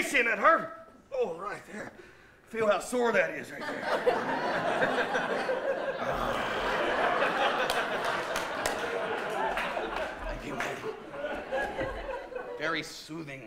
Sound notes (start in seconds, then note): 3.5 laughter